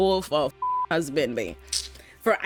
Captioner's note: beep